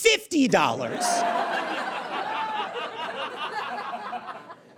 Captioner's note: audience laughs and jeers